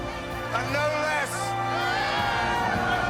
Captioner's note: all cheering